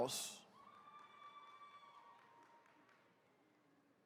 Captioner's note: attendees cheering